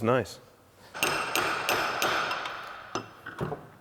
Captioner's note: banging